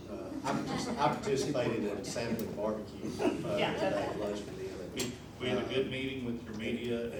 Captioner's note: laughter